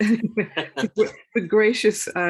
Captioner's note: laugh